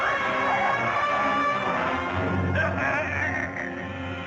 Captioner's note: groaning; phone buzzing